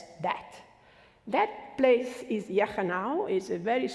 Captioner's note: foreign language